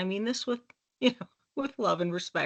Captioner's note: chuckling